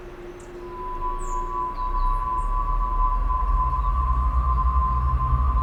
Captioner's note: birds chirping; ominous music